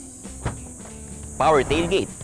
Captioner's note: door unlocks